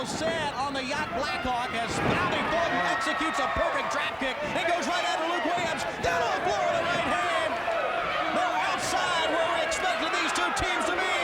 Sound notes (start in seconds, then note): 5.6 people chattering